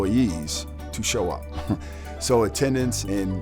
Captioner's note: chuckling